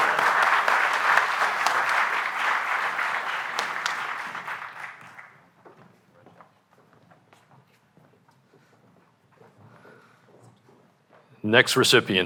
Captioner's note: applause